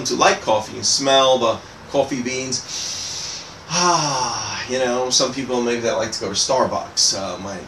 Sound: sniffing sound

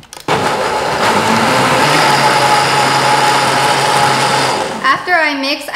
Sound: whirring

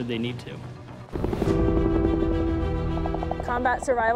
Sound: helicopter rotors pulsating

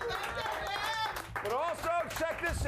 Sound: audience cheering

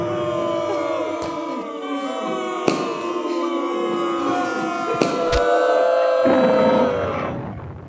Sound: French booing intensifies

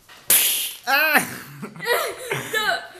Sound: strongbad screaming

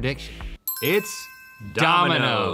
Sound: ding

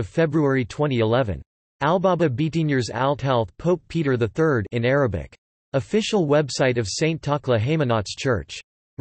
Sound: in Arabic

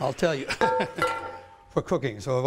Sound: laughs

